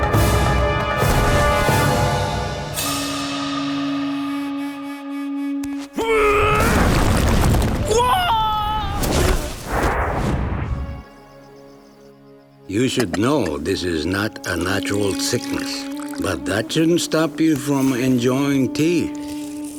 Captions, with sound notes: [grunting] [screaming] You should know this is not a natural sickness. But that shouldn't stop you from enjoying tea.